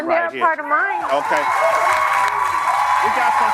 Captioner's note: audience cheering